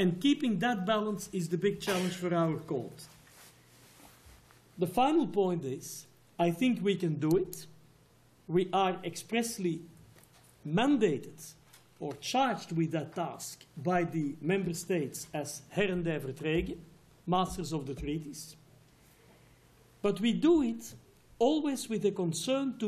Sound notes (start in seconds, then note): 15.9 non-english